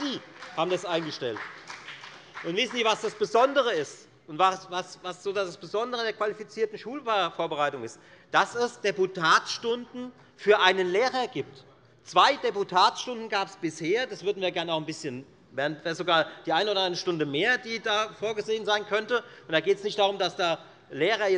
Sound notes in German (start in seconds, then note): 1.7 Beifall bei der FDP